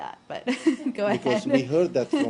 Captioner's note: laughter